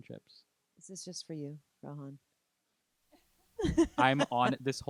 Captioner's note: laughing